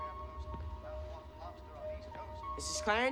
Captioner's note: sound of TV